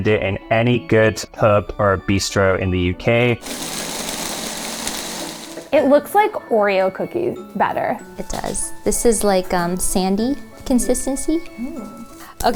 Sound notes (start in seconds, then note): 3.4 blender whirring